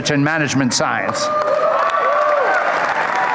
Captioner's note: applause